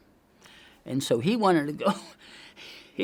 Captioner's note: coughs